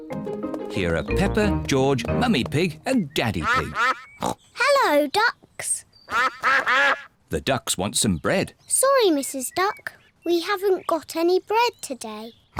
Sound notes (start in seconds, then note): 4.2 snorts; 6.0 ducks quack